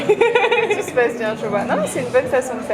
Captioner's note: laughs